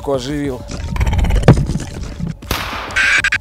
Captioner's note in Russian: рык; крик